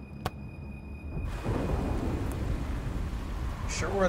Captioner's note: thunder rumbling